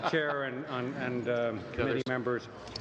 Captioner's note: laughter